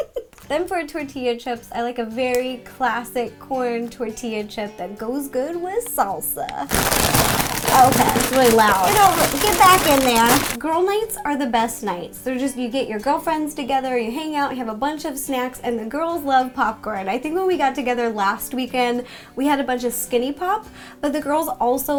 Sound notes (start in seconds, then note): 6.6 crinkle of bags